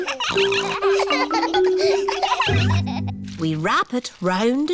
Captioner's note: all laughing; snorts